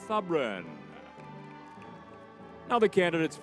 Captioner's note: crowd cheering